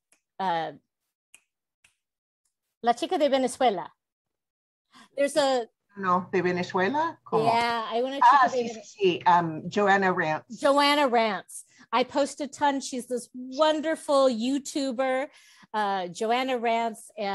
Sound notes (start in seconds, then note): 2.6 Spanish